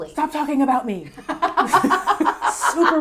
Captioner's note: laughs